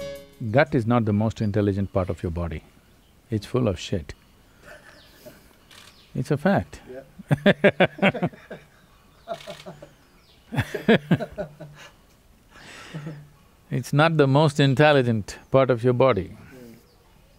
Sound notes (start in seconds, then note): 4.6 laughs; 7.2 both laugh